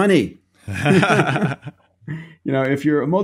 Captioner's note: both laughing